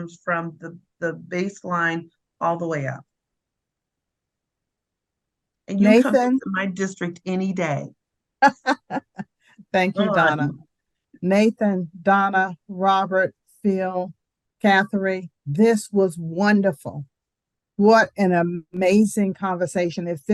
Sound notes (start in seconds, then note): 8.4 laughs